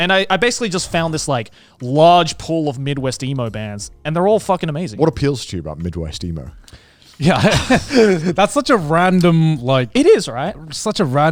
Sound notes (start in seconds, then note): 7.2 chuckles